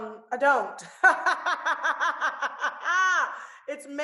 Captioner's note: laughs